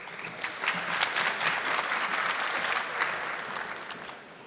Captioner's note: audience clapping